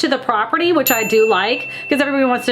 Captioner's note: bell dings